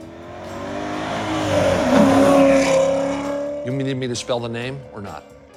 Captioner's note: car engine revs